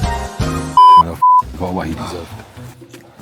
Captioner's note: beep